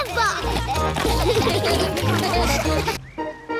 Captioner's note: all giggling; all laughing